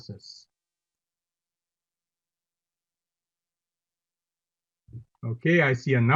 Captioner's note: silence